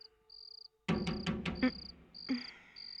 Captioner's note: knock On Door